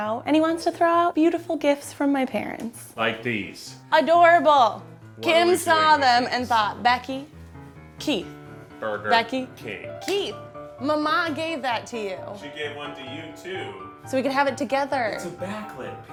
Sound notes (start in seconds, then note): none